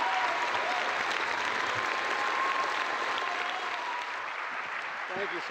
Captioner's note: applause